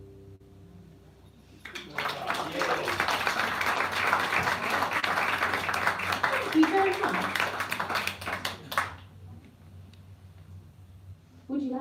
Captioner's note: applause